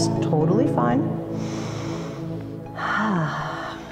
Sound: exhale; inhale

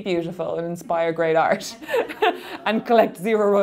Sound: laughing

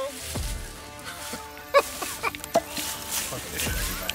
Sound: laughter

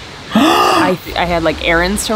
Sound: gasps

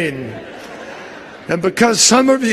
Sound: laughter

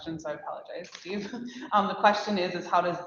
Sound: laughs

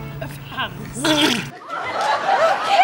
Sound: vomit bubbles; audience shrieks

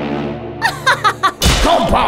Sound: laughs evilly

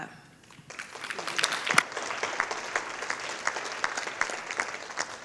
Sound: audience applauding

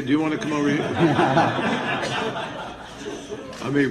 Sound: all laughing

